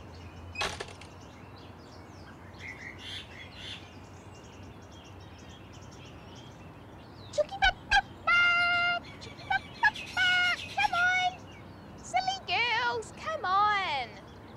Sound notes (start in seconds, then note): 0.5 metal gate rattles shut; 2.7 birds sing; 7.3 calls to chickens